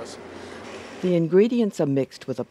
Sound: voiceover

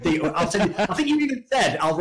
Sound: laughs

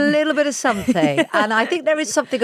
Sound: Giovanna laughs

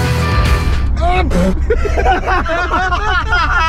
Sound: laughs

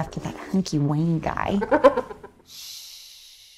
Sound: hyena chuckles

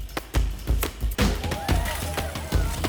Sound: upbeat music playing; people cheering

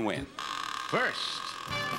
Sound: door creaking

